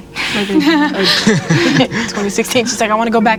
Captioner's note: laughing